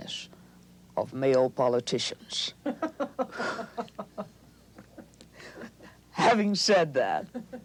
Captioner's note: off-camera, interviewer laughs